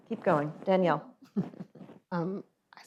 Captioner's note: laughs